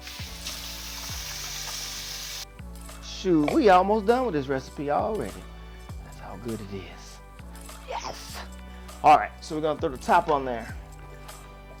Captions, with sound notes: (water pouring from faucet) Shoot, we almost done with this recipe already. That's how good it is, yes! All right, so we're gonna throw the top on there.